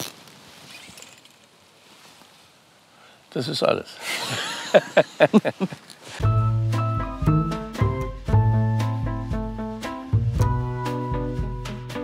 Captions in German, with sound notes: Das ist alles. (Lachen) (Tapsende Musik)